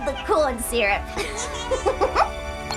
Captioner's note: giggles